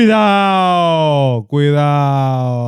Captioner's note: speaking In Foreign Language